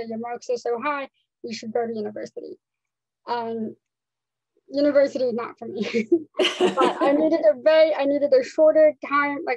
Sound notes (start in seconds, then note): 6.3 laughs